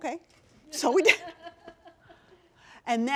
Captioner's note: laughter